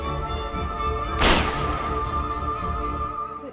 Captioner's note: gunshot